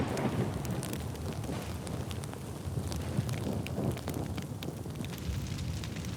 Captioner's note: fire crackling